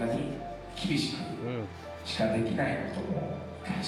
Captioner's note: speaking foreign language